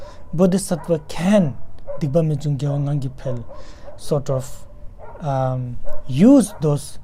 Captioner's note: tibetan